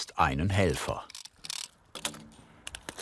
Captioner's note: rattling